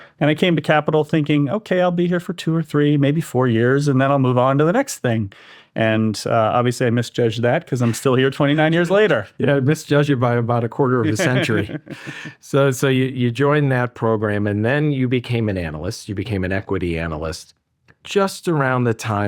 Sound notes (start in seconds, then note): 11.0 laughs